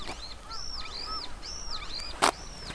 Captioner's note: birds chirping